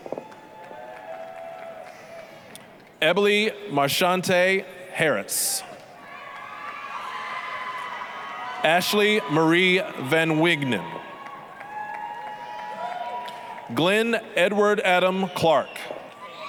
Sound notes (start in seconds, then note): 0.0 applause, cheering; 6.0 applause, cheering